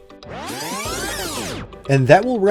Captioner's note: tape rewinding